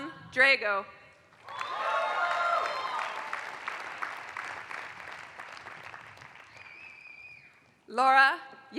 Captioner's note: applause